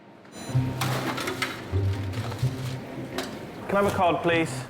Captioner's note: equipment beeps